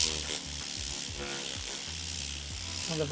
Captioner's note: vacuum running